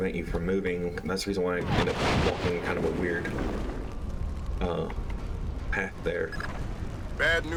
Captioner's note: explosion